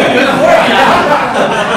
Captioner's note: laughter